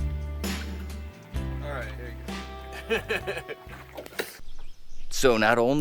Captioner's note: laughter